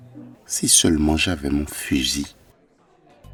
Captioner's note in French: en marmonnant